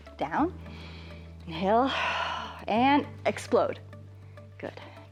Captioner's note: exhales